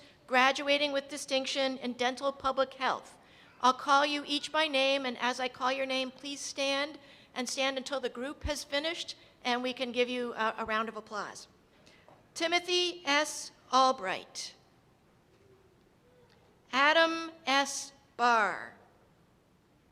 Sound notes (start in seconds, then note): none